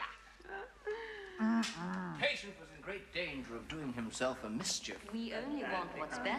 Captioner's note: Кряхтит как дед